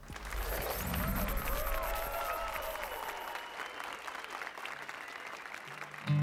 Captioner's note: applause and cheers